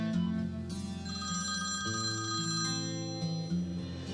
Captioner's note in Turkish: Telefon çalıyor